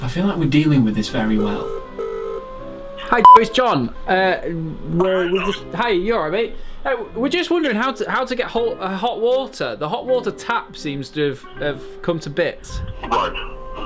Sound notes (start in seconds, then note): 3.2 beep